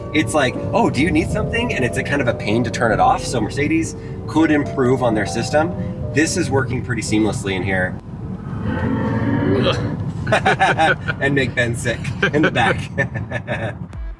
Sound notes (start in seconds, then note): 8.5 car revs; 10.1 laugh